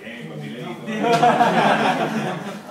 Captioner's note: laugh